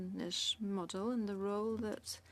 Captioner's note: speaking French